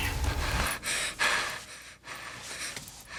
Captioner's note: panting